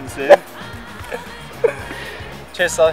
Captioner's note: laughing